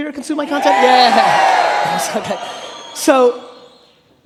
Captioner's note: laughing